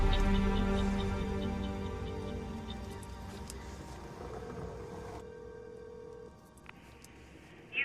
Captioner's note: phone rings